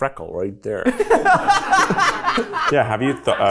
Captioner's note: people laugh